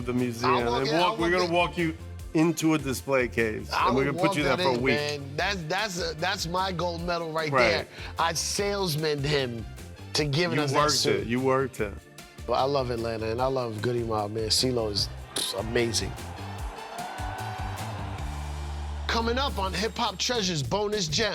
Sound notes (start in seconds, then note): 15.2 crowd cheering; 16.1 lively music